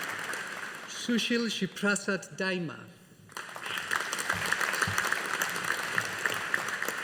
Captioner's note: audience applauding